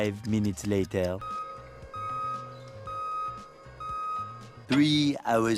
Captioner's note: desk machine whirring and beeping as it moves